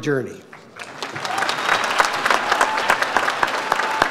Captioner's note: audience applauds